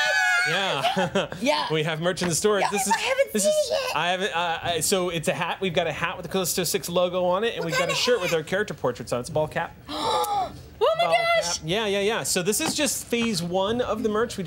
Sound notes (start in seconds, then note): 0.3 laughs; 9.9 gasping